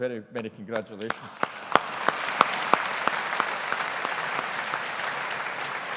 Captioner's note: audience applauding